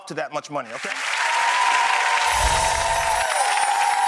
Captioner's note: cheers